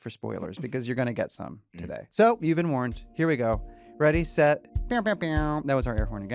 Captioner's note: none